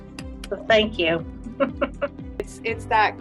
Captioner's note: laughs